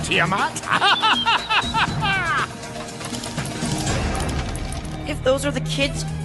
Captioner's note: laughing